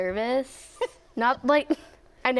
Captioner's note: laughs